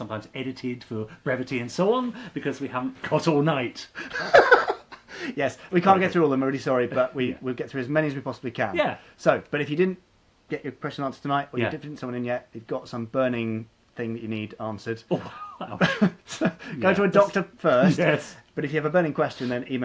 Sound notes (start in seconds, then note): 4.0 laughing